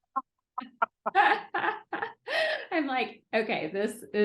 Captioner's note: laughing